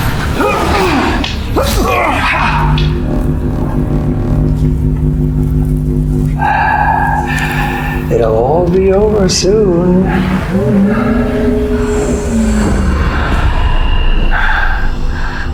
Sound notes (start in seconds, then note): 0.1 fighters grunting; 0.2 energy whirring; 3.8 energy droning; 11.0 mysterious vocalizing